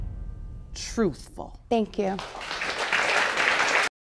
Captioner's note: audience applauding